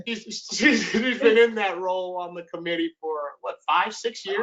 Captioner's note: laughs